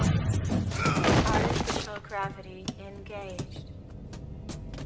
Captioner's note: slam; thud